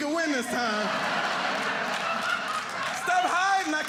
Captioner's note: audience laughing